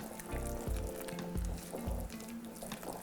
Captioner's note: rattling